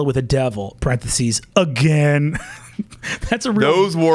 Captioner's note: laughs